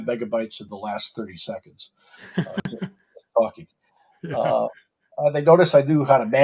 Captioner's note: laughs